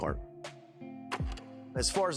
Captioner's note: film reel clicks